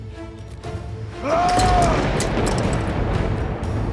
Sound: Bağırma sesi; Müzik - Gerilim

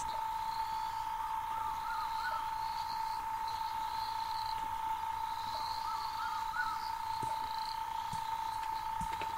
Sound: night sounds

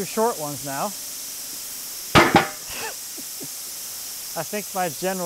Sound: machine sawing

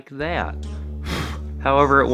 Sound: blows out candles

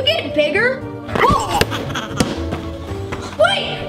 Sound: giggling

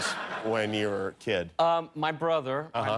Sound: laughter

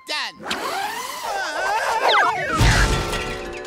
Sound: screaming

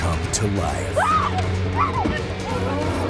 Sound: woman screaming

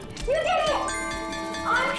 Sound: bell dings

